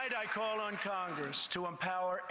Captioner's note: applause